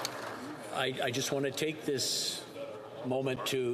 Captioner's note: some Applause